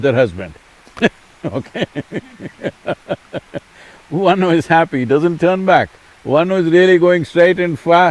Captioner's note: laughs